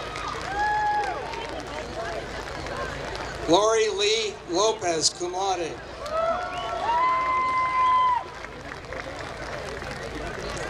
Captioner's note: applause